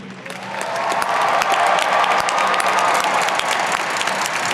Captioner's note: audience cheering